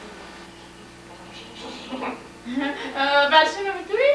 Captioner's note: giggles menacingly